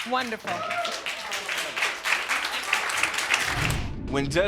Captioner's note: audience cheering